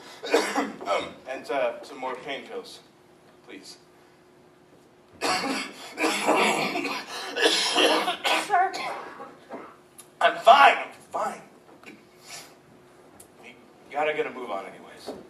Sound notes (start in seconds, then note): 5.2 big coughing fit